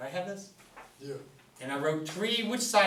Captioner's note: voiceover